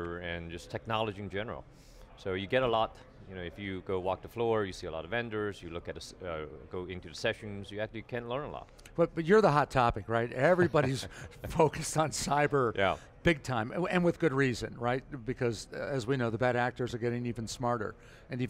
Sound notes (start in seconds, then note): 10.4 chuckling